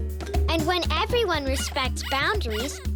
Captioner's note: squeaking